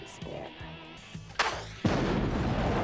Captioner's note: blast